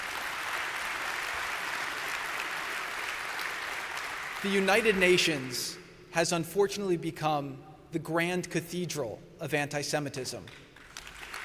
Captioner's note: applause